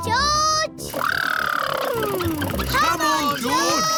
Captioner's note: makes sputtering noises